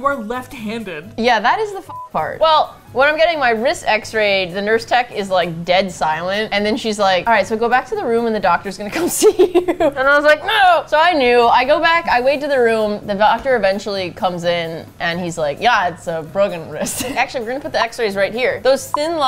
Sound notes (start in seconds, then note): 9.0 laughing